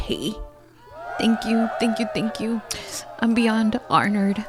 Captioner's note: applause and cheering